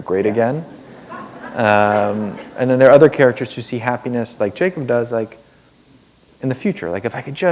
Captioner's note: laughter